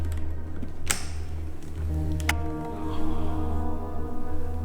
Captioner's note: briefcase opens